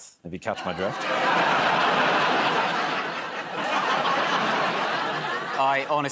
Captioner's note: laughter